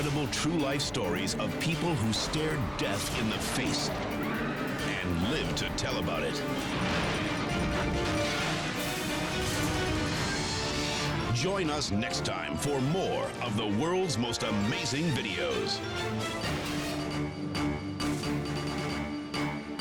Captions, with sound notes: true-life stories of people who stared death in the face and lived to tell about it. (explodes) Join us next time for more of the "World's Most Amazing Videos." (dramatic music)